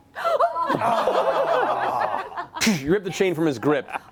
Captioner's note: laughter